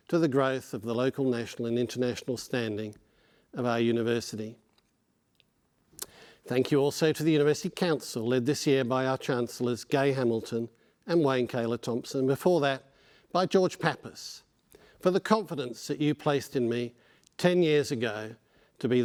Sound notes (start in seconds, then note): none